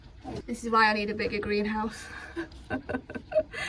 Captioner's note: laughs